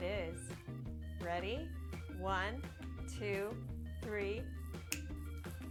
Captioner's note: snap